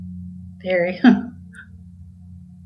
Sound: laughs

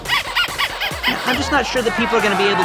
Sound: squeaky toy

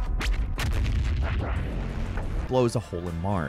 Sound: cannon firing

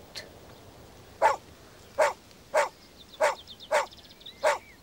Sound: Prince barking

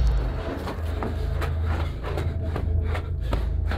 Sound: heavy footsteps

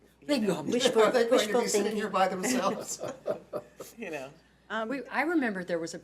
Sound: laughs

